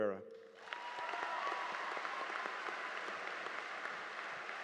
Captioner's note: audience applauding